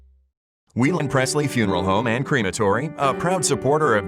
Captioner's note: voiceover